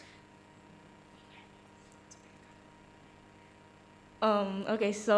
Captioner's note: whispers